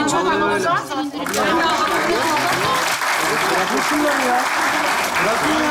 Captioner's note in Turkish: Alkış sesleri